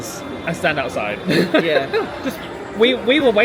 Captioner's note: laughs